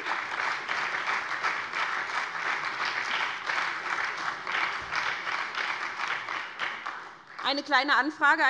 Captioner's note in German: Beifall bei der SPD und der FDP